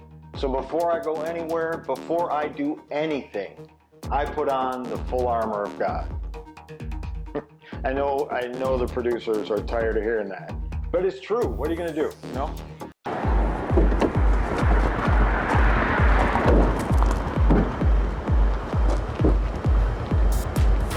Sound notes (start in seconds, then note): 7.2 Mo chuckles; 13.3 upbeat music